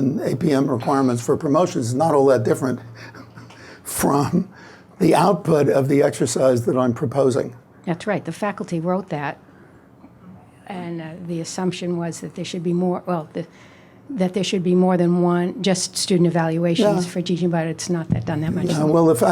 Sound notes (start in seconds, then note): 4.0 laughs